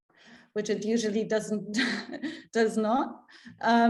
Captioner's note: chuckles